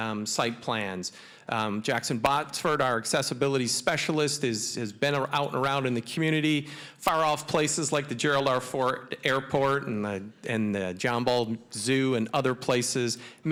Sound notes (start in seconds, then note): none